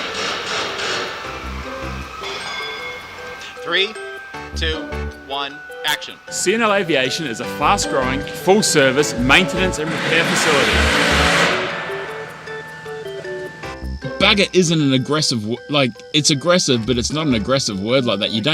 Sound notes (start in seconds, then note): 10.5 loud machinery buzzing